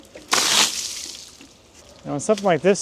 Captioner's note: water splashes